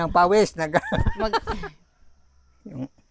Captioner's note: laughs